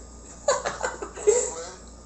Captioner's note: cackles